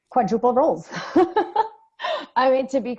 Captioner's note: laughing